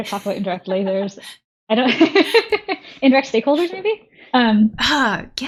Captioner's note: laughing